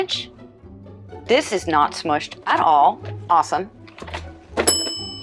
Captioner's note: bell ding